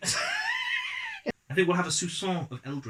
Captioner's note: laugh